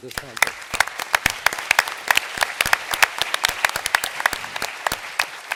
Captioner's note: applause